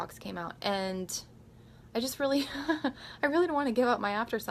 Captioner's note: giggles